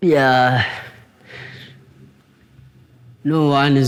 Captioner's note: heavy breathing